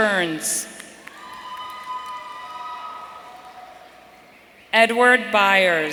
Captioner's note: audience cheering